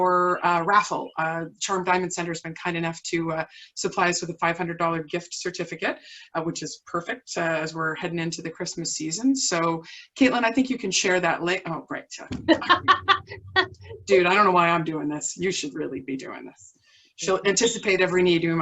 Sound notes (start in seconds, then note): 12.4 laughter